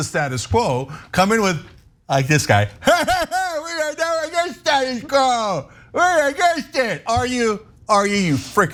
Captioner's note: laugh